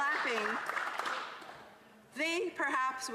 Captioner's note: cheering and APPLAUSE